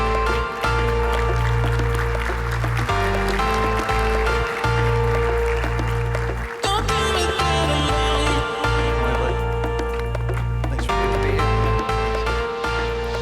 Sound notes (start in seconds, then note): 0.1 upbeat music; 2.5 audience clapping; 5.6 upbeat music